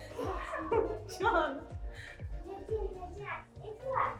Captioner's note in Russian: смеются